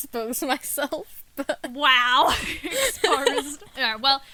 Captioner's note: laughing